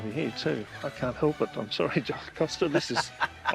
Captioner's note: chuckles